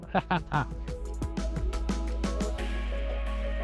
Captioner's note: laughing